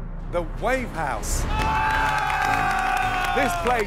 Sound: cheers

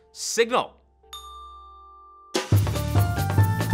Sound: bell chimes; upbeat music

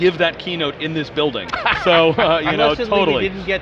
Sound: laughs

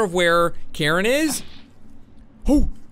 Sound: poof

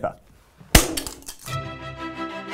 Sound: snapping sound

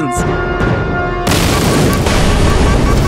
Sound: boom

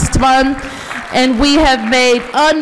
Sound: applause

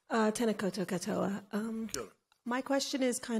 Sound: foreign language

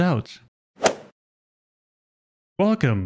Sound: golf ball hit sound effect

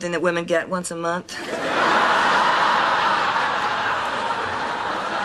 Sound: audience laughing

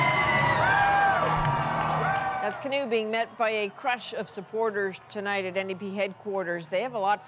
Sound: cheers and Applause

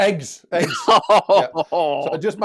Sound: laughs

